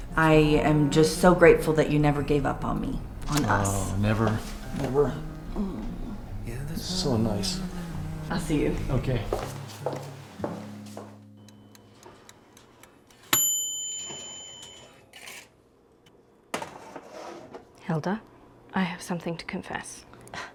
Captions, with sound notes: I am just so grateful that you never gave up on me. On us. - Oh, never. Never. - Mm. - So nice. - I'll see you. Okay. (timer dings) (tray clatters) - Hilda, I have something to confess,